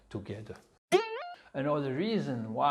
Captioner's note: spring bounces